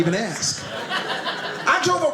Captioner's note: audience laughing